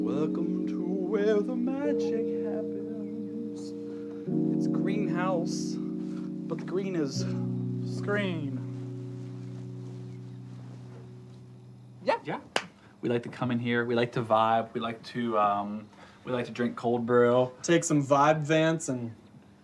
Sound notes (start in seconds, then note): 12.5 claps